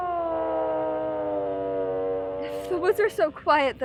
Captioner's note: growling